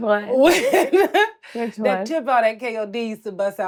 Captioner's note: laughs